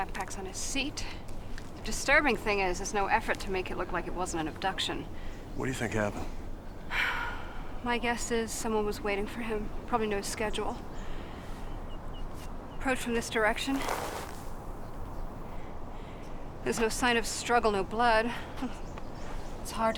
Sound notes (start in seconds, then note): 6.8 sighs